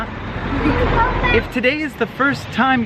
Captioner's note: giggles